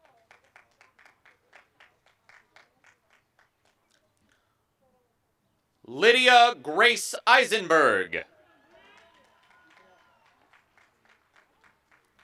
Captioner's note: applause; applause and cheering